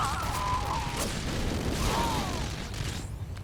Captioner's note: gunfire